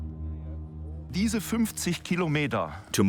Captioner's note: speaking German